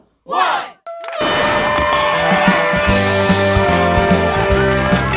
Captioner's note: cheering and kazoos